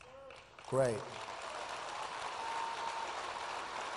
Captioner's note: applause